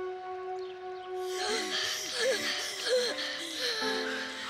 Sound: gasping

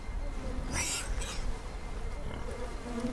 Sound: pigs squeal

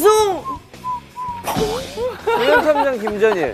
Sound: bang!

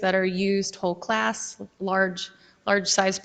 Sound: none

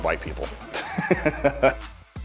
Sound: laughs

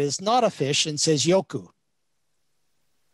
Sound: speaks in Chinese

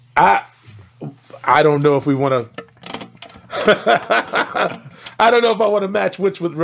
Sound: laughs

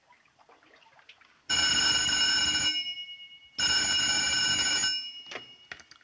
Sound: telephone ringing

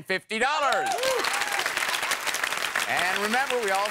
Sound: cheering

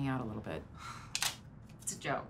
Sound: sigh

